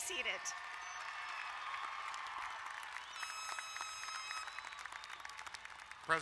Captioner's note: crowd cheering and applauding